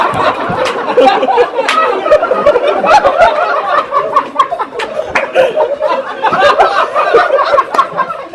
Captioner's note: laughter